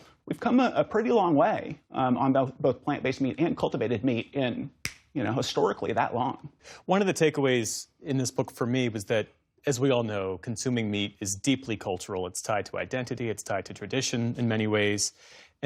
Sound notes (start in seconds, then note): 4.8 snap fingers